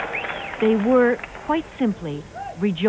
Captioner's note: cheering